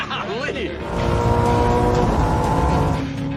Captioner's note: engine revving